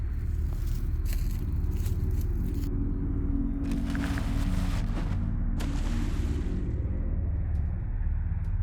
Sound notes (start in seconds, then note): 0.2 leaves crunch; 1.4 ominous music; 3.6 tarp rustles; 5.5 water splashes